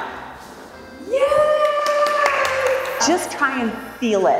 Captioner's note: hands clapping